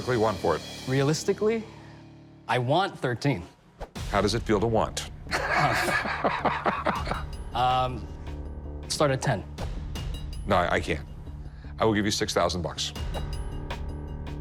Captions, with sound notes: Realistically, I want $13,000. How does it feel to want? [laughs] Start at $10,000. No, I can't. I will give you $6,000.